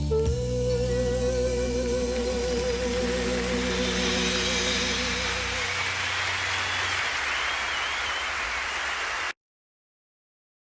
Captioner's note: cheers and Applause